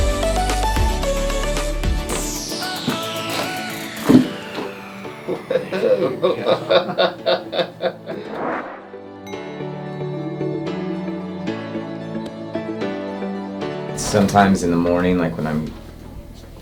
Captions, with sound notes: (bones cracking) - Sometimes in the morning,